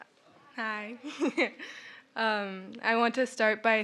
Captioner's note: laughs